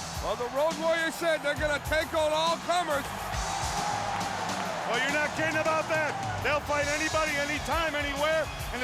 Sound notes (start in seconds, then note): 3.3 crowd cheering; 3.3 heavy rock music